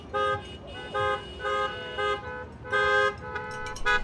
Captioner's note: cars honking